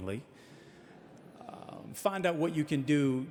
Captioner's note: audience laughing